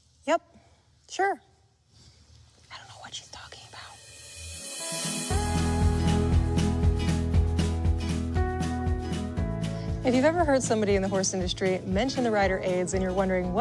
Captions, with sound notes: - Yup, sure. (whispers) I don't know what she's talking about. (upbeat music) - Have you ever heard somebody in the horse industry mention the rider aids and you're wondering